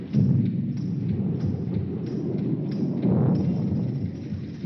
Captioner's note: thunder rumbling